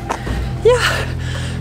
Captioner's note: groans